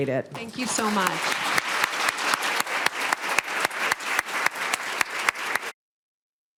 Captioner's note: applause and music playing